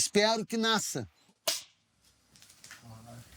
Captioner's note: clapboard